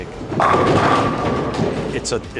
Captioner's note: pins knocking